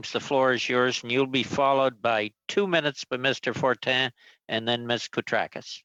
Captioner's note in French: voix de l'interprète